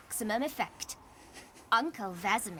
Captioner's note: chuckles